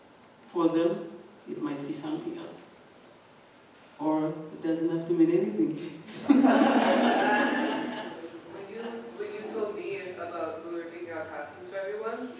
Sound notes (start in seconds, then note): 6.1 laughter